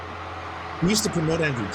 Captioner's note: crowd cheering